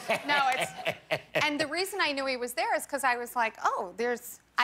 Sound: laughter

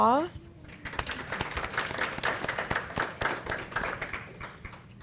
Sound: applause

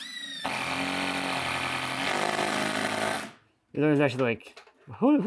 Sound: tool whirring

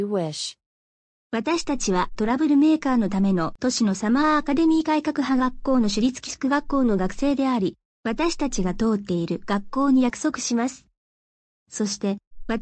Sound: speaking japanese

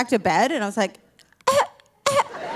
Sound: coughing

